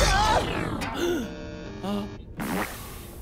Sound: gasps

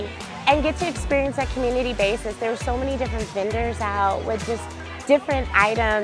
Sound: people visiting vendor booths and talking

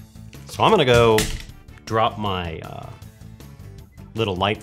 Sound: crash

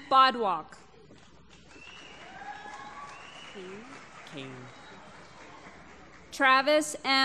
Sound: applause

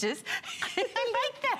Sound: laughter

